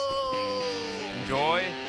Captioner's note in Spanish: Exclamaciones